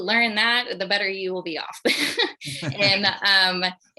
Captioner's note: laughs